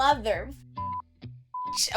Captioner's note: beep